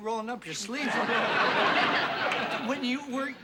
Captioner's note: laughter